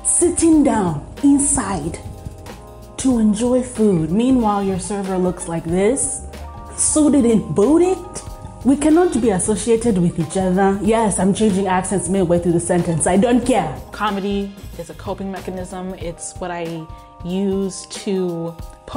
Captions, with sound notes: sitting down inside (American accent) to enjoy food. Meanwhile, your server looks like this: Suited and booted. (Kenyan accent) We cannot be associated with each other. (American accent) Yes, I'm changing accents midway through the sentence. (Kenyan accent) I don't care. (American accent) Comedy is a coping mechanism. It's what I use to